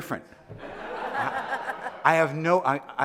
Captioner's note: audience laughing